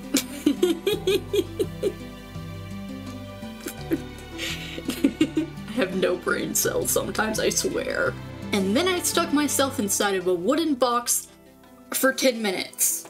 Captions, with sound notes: [yet more laughter] [I was in shambles at this point. More laughter] I have no braincells sometimes, I swear. And then I stuck myself inside of a wooden box for ten minutes.